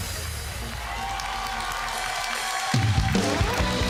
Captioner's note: applauding